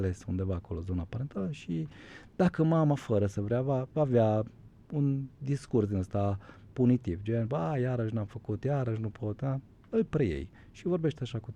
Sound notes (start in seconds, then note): none